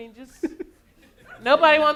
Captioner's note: audience laughing